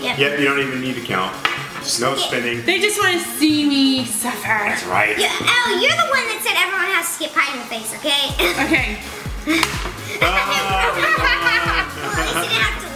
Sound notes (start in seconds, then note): 9.1 clicks; 10.2 laughing